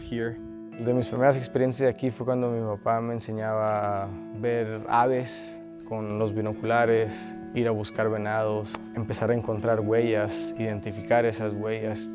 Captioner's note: speaking Spanish